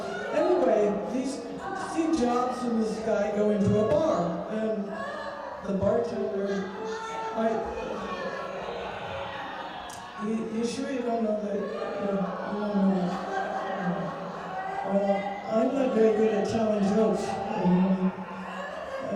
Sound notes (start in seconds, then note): 7.1 laughing